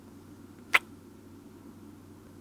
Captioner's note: kiss